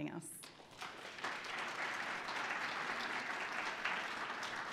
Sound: audience applauding

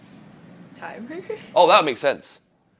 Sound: laugh

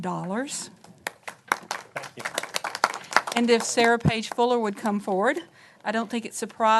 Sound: applause

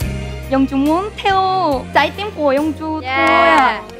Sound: speaking Korean

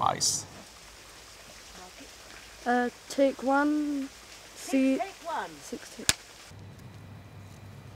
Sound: sounds of water and bird noise

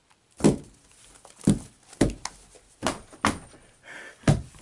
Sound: smashing dead phone

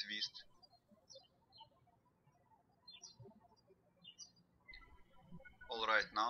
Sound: birds chirping

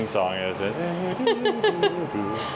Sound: hums theme song

